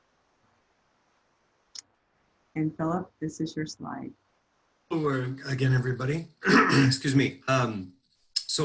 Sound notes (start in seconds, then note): 4.9 clears throat